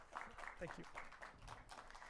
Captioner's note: applause